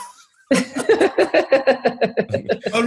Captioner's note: laughter